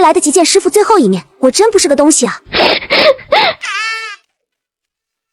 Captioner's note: hollow laugh